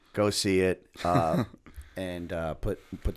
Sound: chuckle

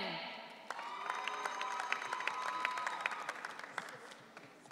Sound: audience cheering

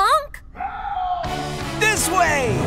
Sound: distant shouting

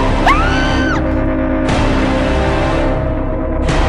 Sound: character screams

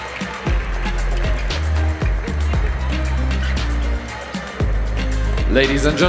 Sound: applause; ♫ Midtempo guitar music ♫

